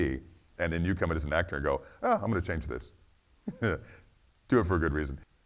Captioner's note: chuckles